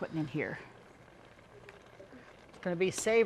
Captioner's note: soup bubbling rapidly